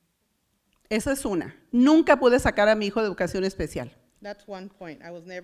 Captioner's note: foreign language